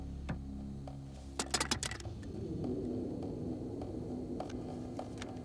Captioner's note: flashlight clatters